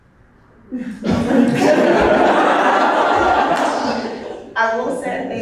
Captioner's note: audience laughing